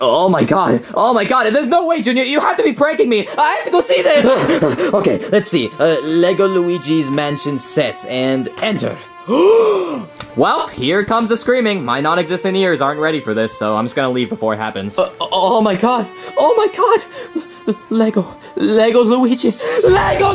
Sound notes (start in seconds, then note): 4.3 panting; 9.3 Luigi gasps